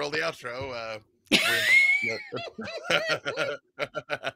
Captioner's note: group laughing